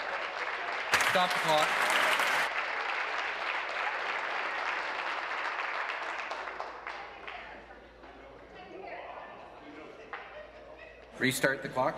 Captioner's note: applause